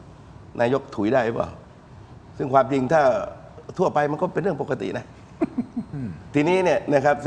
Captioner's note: laughter